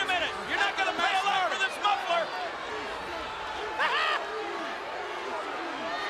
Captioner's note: chuckles